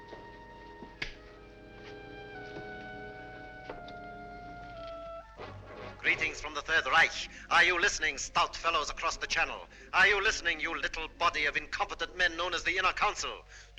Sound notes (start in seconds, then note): 5.9 radio Broadcast